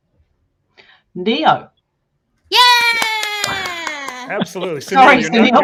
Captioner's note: clapping